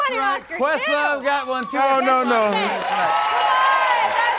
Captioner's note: cheers and applause